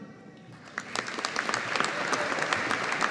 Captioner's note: audience applauding